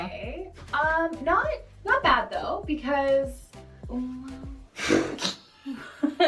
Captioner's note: laughs